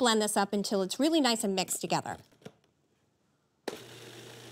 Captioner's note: whirring